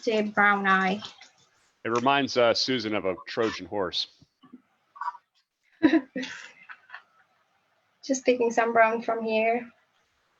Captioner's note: chuckles